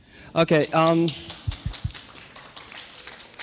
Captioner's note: clapping